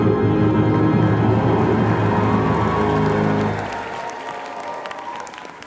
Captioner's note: applause